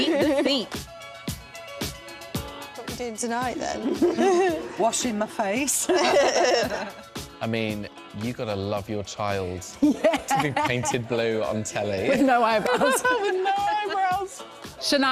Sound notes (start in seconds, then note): 1.2 upbeat music; 3.8 laughter